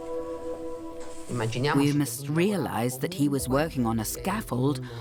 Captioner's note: in Italian